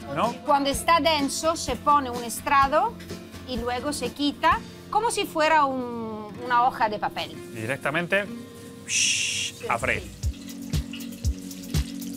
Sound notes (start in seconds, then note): 7.1 imitates sound of frying